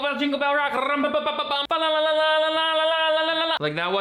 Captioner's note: trilling voice